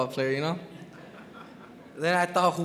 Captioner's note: crowd chuckles